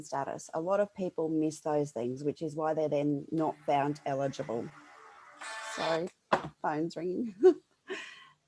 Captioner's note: phones ringing